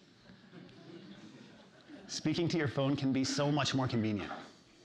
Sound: laughter

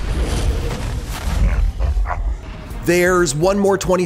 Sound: laughing

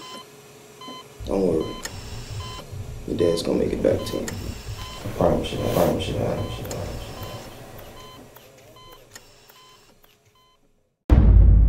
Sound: echo

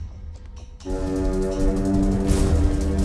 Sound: horn blaring; ominous music

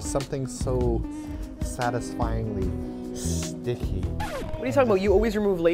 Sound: record scratches

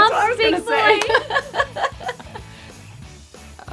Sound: laughing

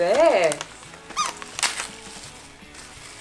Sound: toy squeaks off-screen

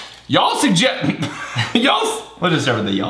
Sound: clears throat

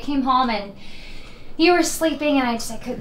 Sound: emma takes a deep breath

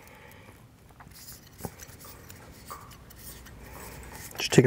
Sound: ring scraping softly

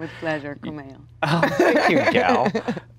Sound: laughs

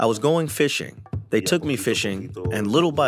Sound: through translator

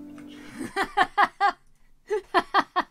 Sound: laughs uncontrollably

